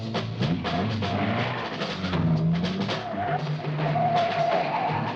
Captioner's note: car engine roaring